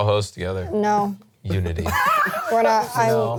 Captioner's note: laughs